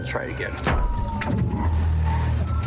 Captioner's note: thuds